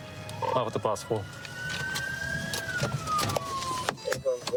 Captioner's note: sirens blaring